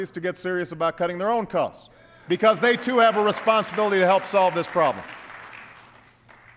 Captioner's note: applause